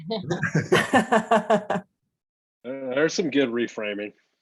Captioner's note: laughs